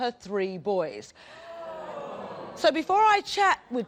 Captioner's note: audience gasps